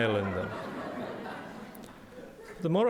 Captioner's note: audience laughing